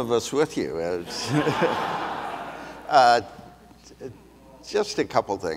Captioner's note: audience laughs